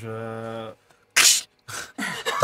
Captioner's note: claws sound